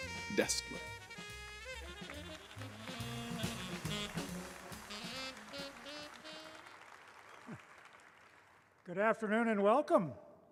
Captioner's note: applause